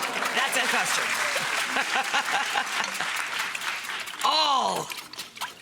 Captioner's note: chuckles